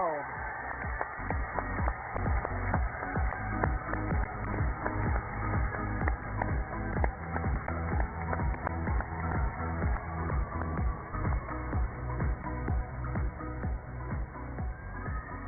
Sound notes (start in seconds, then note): 4.0 cheers and applause